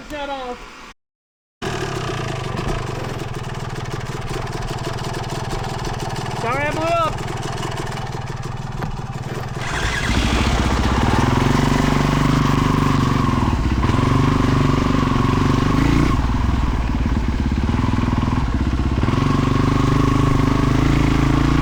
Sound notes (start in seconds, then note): 8.3 engine roaring; 13.7 engine roaring